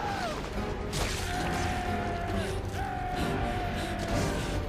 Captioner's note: Thomas screaming; suspenseful music